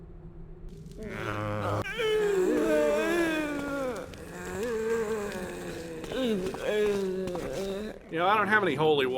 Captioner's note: zombie sounds